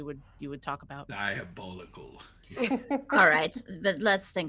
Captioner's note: person chuckling